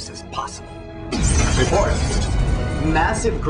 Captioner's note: explosion